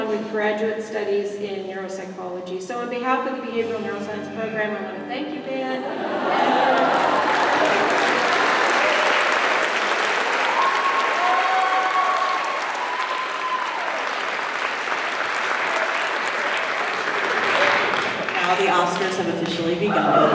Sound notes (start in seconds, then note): 5.8 laughter; 7.7 applause